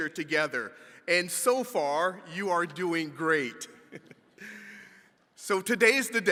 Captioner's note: chuckles